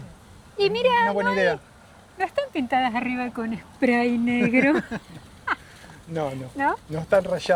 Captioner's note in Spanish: risas